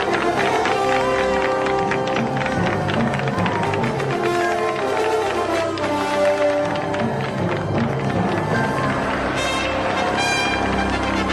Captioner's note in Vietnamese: Vỗ tay